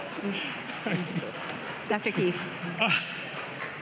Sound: laughter

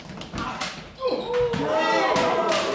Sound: gun fires

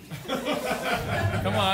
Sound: laughter

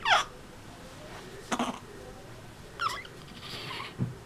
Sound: gurgling

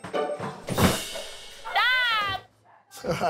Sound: crashing sound

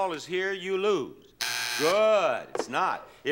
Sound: buzzer sounds

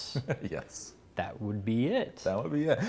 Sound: laughs

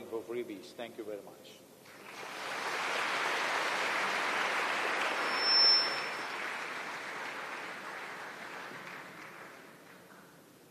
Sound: applause

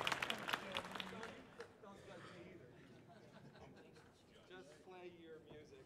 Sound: audience applauding; musicians chattering and chuckling

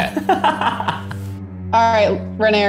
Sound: laughter; solemn music

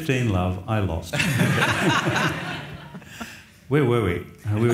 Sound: audience laughs

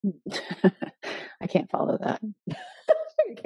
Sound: laughing; laughing

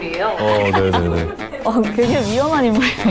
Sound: laughing at the expression

